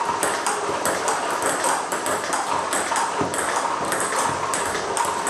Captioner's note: ball ping pong hitting continues